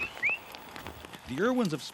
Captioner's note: whistling